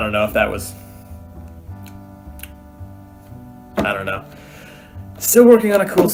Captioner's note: smacks lips